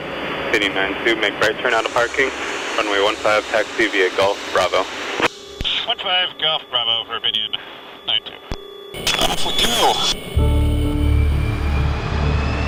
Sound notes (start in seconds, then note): 0.5 radio tower chatter